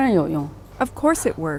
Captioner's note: speaking foreign language